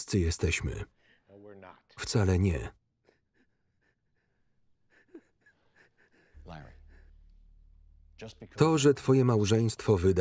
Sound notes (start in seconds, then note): 2.9 sobbing